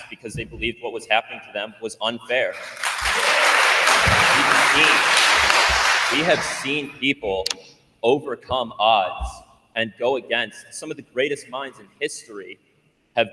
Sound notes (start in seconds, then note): 2.5 attendees applauding